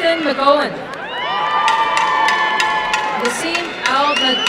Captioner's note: applause and cheering